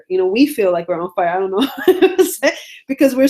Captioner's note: laughs